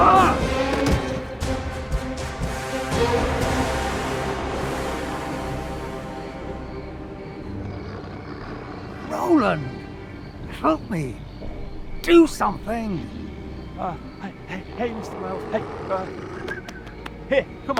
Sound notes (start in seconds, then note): 0.3 thumps; 7.4 Eric growls; 16.9 whistles